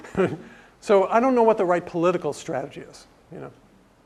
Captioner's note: laugh